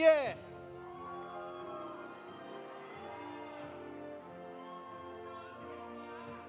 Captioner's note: audience applauding; audience cheering